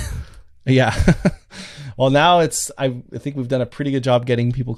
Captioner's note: laughs